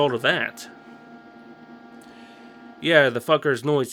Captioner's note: Audible Noctua fan noises